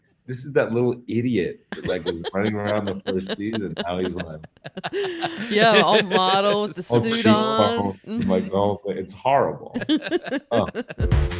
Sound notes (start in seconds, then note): 4.5 interviewers laughing